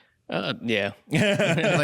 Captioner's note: laughter